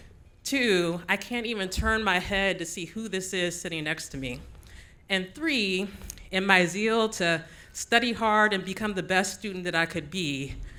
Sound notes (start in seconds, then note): none